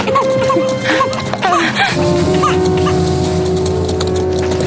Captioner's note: woman gasps; sighs